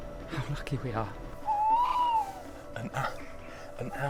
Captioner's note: owl hoots